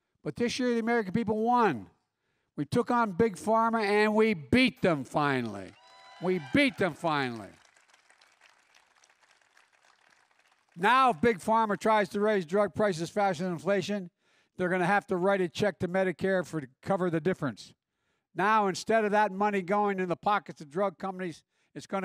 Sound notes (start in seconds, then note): 5.1 applause